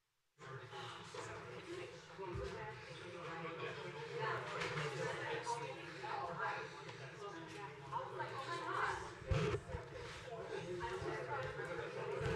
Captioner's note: crowd murmurs/noise